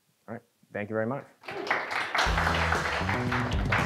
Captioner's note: applause; upbeat music